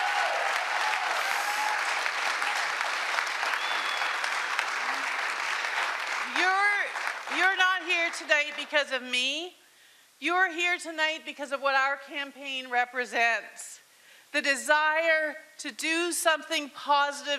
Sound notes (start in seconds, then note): 3.0 cheering and Applause